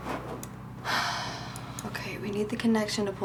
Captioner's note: sighs